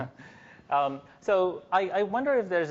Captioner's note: chuckling